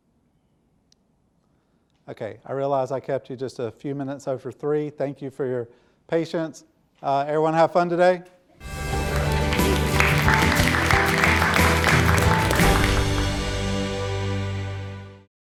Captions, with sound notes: Okay, I realize I kept you just a few minutes over three, thank you for your patience, everyone have fun today. (bright music) (audience applauding)